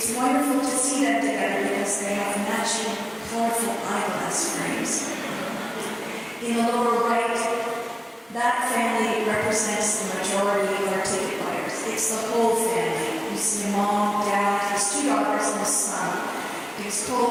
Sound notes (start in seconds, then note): 5.3 chuckling